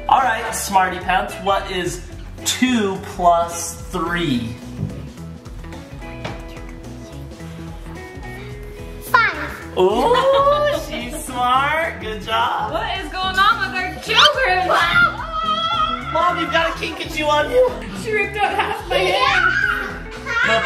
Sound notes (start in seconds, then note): 15.0 dad yells